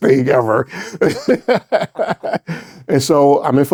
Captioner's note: both laughing